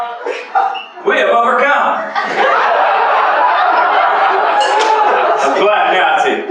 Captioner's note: laughter